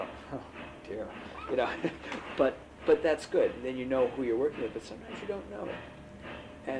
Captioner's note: laughs